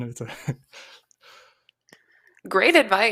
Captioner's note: chuckles